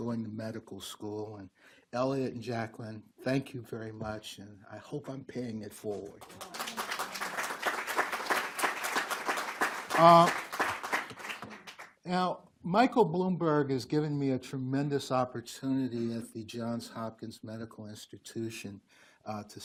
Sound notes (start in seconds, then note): 6.2 group applauds